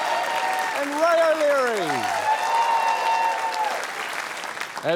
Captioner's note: cheering, applause